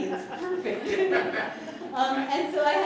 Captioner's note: laughter